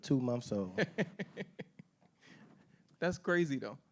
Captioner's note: laughing